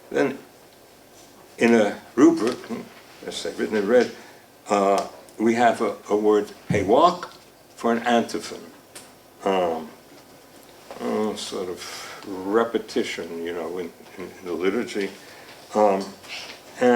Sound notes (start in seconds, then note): 6.6 speaking foreign language